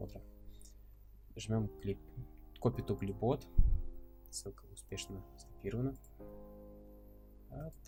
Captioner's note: click